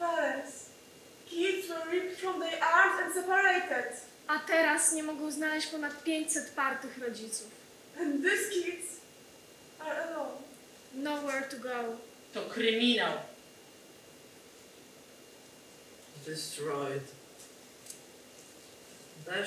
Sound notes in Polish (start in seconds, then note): 0.3 Po angielsku; 4.5 Po polsku; 8.6 Po angielsku